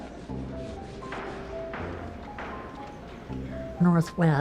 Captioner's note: gavel bangs